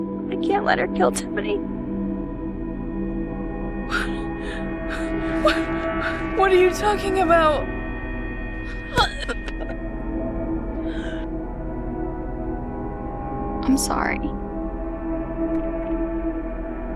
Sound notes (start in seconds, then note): 8.6 Corrine gags